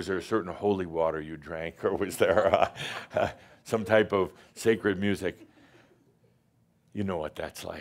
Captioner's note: chuckles